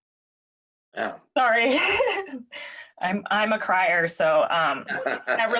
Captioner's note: laughs